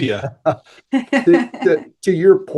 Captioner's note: chuckle